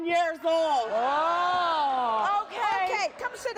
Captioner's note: audience groaning